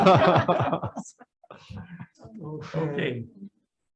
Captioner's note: group laughs